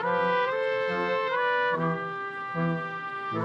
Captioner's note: none